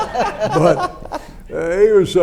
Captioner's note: everyone laughs